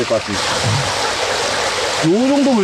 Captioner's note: strong water flow